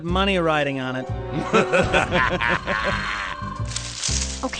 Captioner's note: laughter